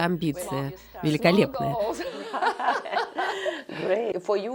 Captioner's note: Смеются